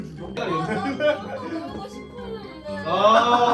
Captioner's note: cry